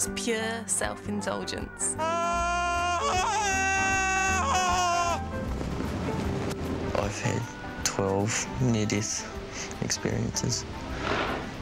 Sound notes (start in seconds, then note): 2.0 primal scream